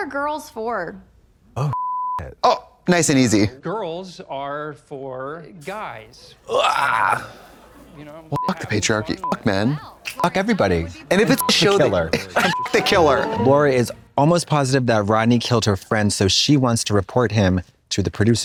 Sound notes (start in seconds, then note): 1.7 beep; 6.4 Katya groans; 8.4 beep; 11.3 beep